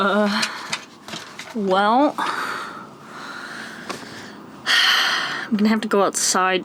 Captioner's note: sighs